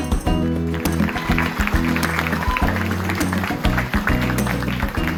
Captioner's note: applause